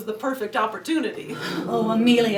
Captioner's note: audience gasps